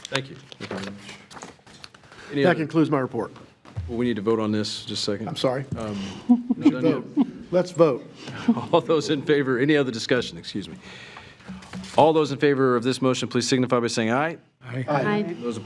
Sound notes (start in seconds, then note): 6.0 trustees chuckling